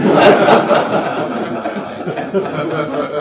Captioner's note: audience laughs